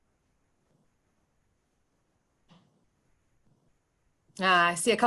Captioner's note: silence